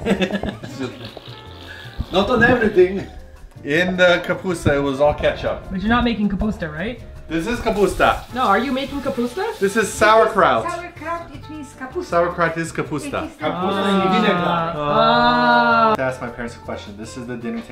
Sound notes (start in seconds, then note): 0.1 raspberry; 11.7 mom explaining softly